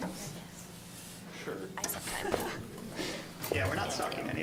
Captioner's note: general chatter